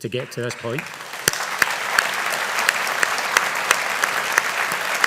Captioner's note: audience applauding